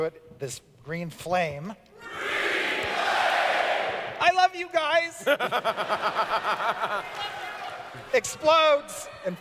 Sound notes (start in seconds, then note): 5.2 laughter